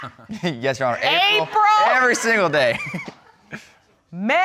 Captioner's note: laughs; laughs